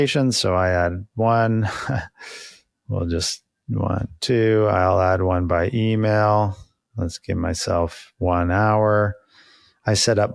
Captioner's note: laughs